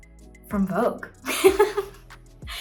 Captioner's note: laughs